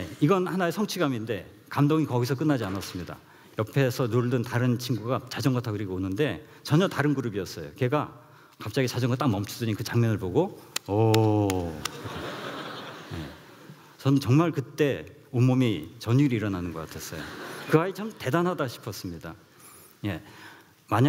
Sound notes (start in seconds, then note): 11.4 claps; 11.8 laughs